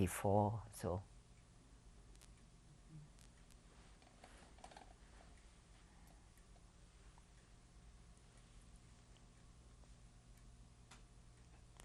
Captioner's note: pauses for 12 seconds